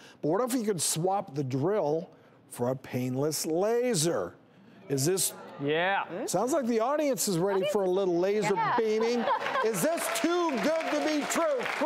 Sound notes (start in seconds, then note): 5.6 audience murmuring; 9.2 audience clapping